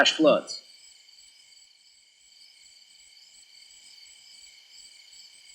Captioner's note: crickets chirping